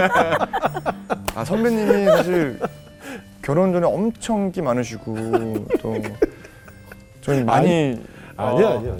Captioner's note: laughing; laughing all together; laughing